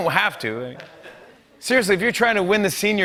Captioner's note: laughter